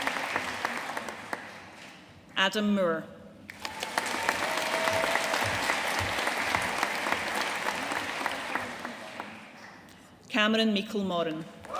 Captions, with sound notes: Adam Moore. (AUDIENCE APPLAUDING) Cameron Meikle Morrin.